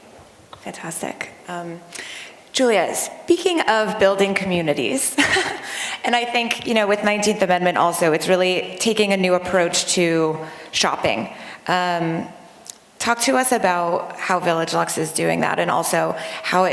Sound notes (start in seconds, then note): 5.1 laughter